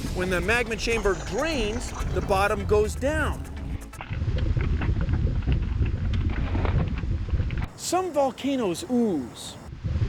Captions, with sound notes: WHEN THE MAGMA CHAMBER DRAINS, THE BOTTOM GOES DOWN. [ BUBBLING ] SOME VOLCANOES OOZE.